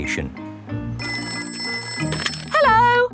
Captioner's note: ringing